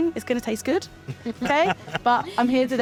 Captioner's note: group laughing